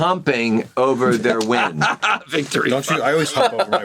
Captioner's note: laughs